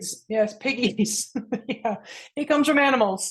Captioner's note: chuckles